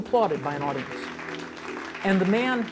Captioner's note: applause